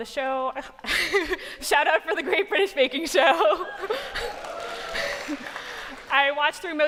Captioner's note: cheers and applause